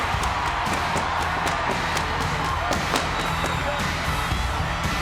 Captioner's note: fireworks popping; crowd cheering continues